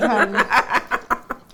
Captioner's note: laughing